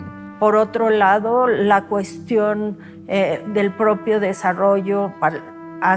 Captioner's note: speaking Spanish